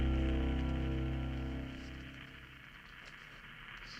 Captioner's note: static on radio